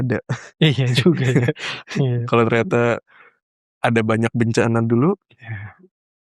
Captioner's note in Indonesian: tertawa